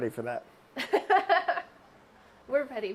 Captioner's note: laughing